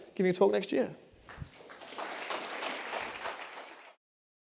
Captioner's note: applause